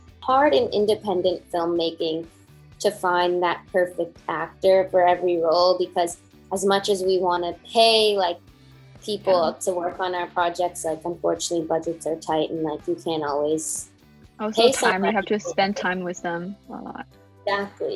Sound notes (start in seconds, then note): 14.4 murmurs